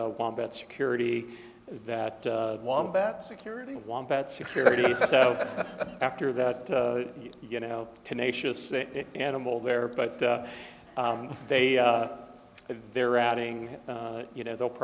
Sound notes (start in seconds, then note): 4.4 laughing